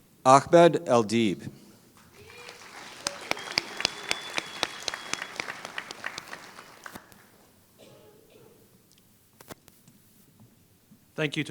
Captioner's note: applause